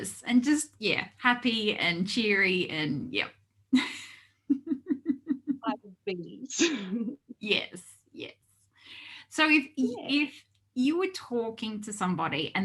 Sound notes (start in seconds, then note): 4.4 giggles